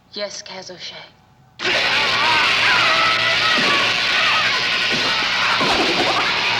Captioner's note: screaming; zapping